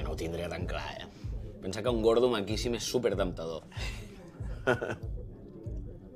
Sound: they both laugh

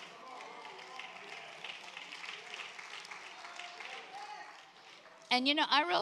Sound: congregation applauds

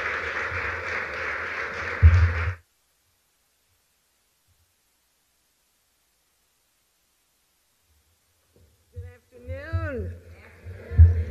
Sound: applause

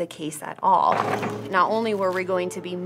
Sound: moving chairs

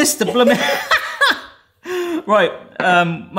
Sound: both laugh

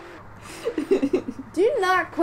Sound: laughter

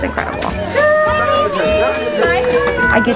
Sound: people cheering

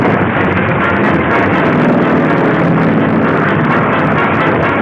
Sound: plane roaring

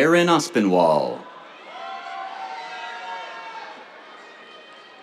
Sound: cheers

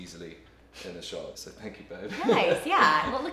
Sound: laughs

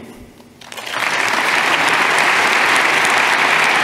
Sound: clapping

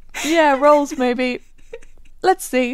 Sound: laughing

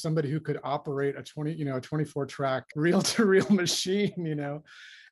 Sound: laughter

